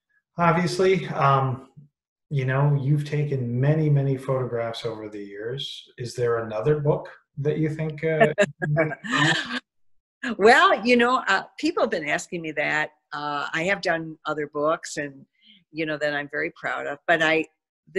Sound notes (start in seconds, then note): 10.9 laughter